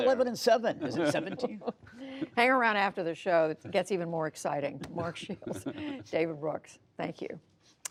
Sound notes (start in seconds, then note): 3.1 laughter